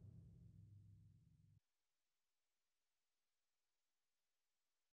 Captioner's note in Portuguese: sem áudio